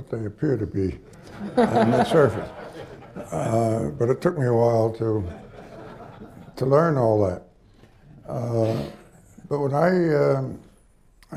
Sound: laughter

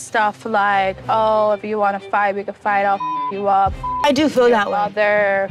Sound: beep

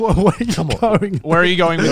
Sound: laughs

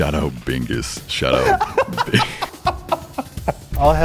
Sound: laughs

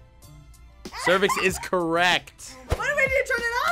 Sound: laughs

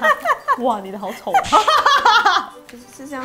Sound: laughing crazily

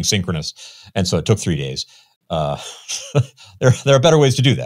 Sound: laughs

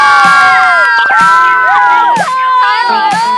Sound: shouting in excitement

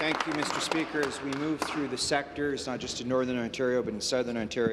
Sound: applause

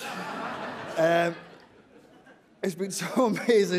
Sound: laughter

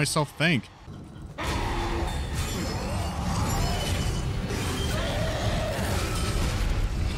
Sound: more screaming and music

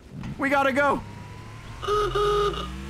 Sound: horn honk

